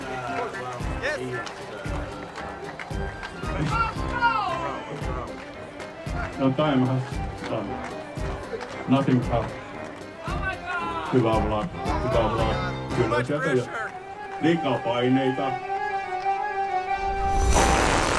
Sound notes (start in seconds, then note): 0.0 speaking in Finnish; 1.5 shouts from crowd; 15.1 speaking in Finnish